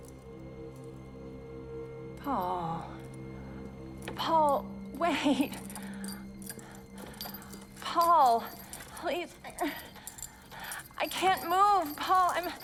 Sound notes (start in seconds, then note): 0.1 suspenseful music; 9.9 moans